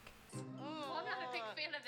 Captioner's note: nervous noises